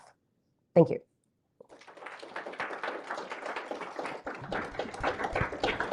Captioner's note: applause